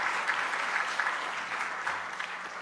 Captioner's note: applause